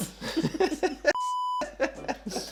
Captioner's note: laughter